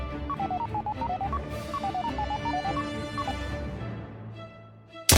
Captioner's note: male prototype blipping